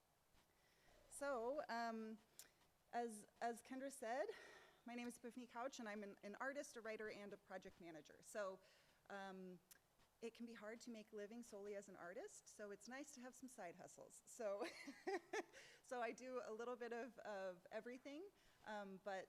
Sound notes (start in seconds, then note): 15.0 laughs